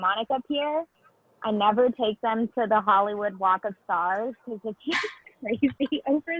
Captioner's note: laughs